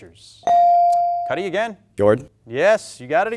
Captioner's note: bell dings